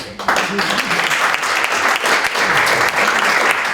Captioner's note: applause